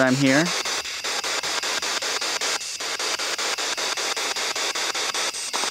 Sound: loud, choppy static

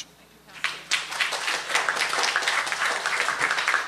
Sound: applause

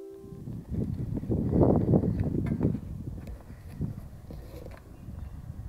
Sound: wind whistling

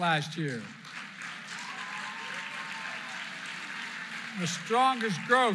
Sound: applause

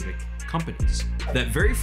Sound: swipe

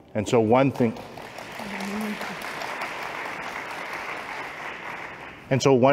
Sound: applause

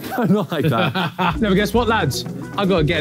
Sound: Ethan laughing

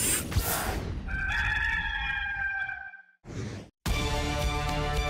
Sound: rooster crowing; dramatic music

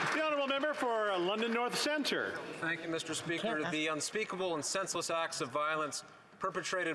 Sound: some Applause

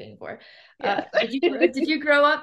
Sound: laughs

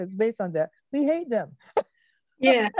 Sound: laughs

